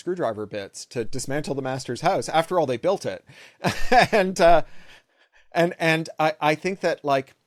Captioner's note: laugh